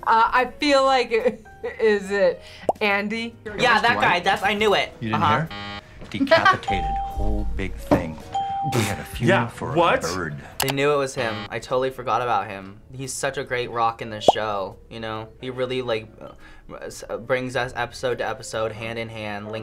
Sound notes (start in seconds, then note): 5.2 buzzer; 8.3 laughs